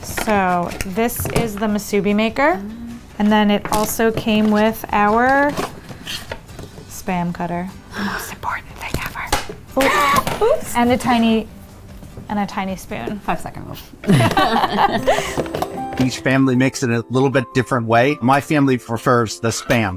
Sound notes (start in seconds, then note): 14.0 both laughing; 14.1 upbeat music